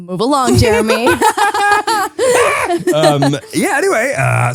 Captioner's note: laughing